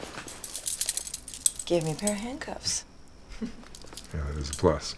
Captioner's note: chuckles